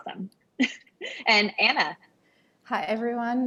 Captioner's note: laugh